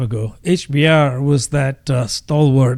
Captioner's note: uh